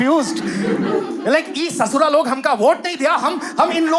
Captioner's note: Bihari accent